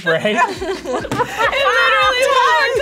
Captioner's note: both chuckling